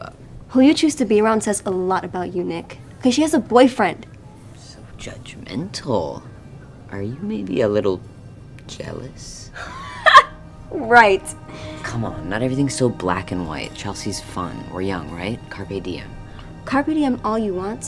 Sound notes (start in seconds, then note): 9.6 Victoria chuckles